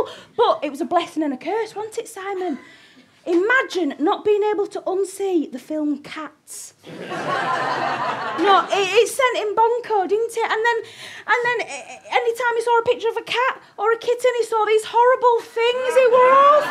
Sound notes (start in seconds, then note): 6.8 audience laughter; 16.4 audience laughter